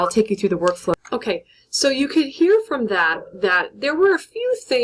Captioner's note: narrator voice